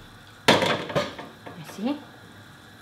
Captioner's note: lid thudding